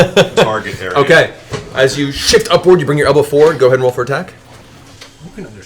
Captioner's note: laughs